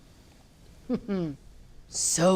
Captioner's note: laughs